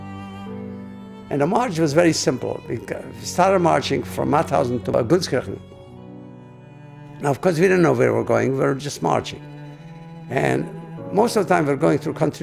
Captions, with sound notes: And, the march was very simple. We started marching from Mauthausen to (speaking in a foreign language). Of course we didn't know where we were going. We were just marching. And, most of the time we were going through country roads.